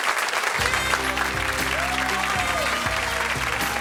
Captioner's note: audience applauds; saxophone music